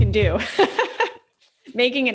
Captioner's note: laughs